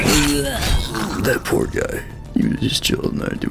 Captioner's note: sounds of pity